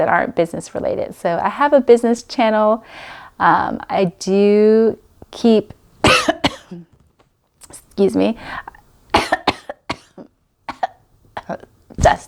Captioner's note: coughs